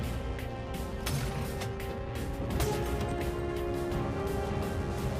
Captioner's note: blows thudding; glass shattering; tense music